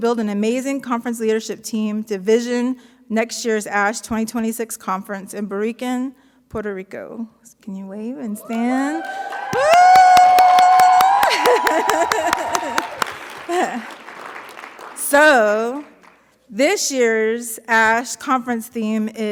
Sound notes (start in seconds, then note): 8.4 audience cheering; 10.8 laughs; 11.5 audience applauding